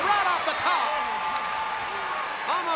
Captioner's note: crowd cheering